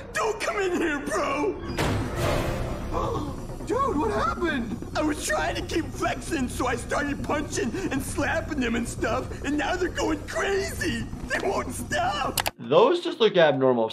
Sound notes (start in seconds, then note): 2.2 dramatic music; 2.9 Hi Five Ghost gasps